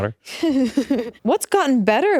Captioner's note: laughing